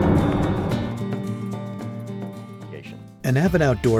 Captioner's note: voiceover